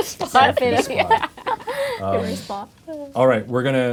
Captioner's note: laughing